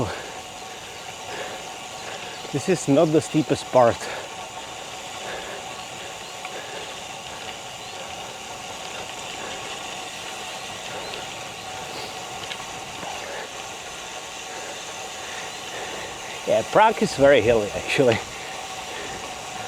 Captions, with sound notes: This is not the steepest part. [breathing] Yeah, Prague is very hilly actually.